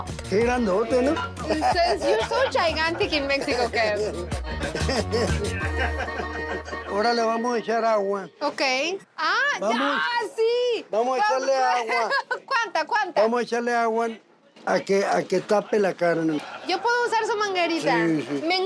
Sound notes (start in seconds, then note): 1.3 laughs; 4.5 laughter